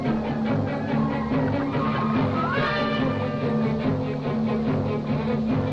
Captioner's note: liquid bubbling